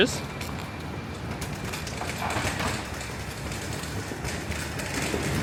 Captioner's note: luggage clacking